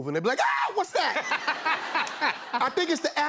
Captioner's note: laughter